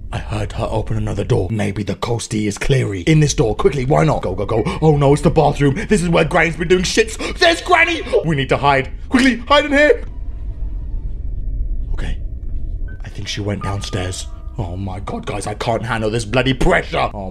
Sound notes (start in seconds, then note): 11.9 whispers